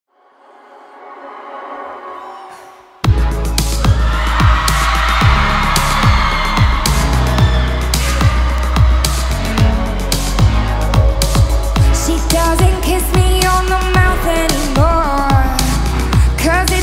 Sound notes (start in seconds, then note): 3.4 crowd cheering; 4.4 soothing music